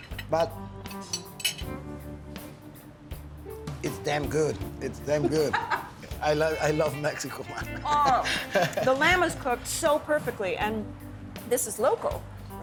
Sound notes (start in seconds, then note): 7.7 laughs